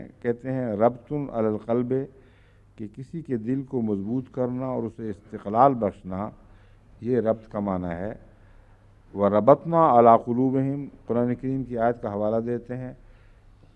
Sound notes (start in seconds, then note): 1.1 Arabic